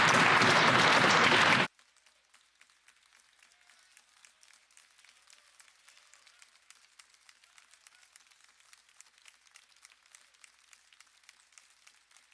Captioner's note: some Applause